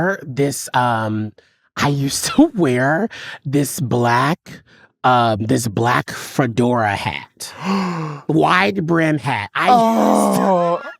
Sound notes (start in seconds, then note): 7.5 gay gasp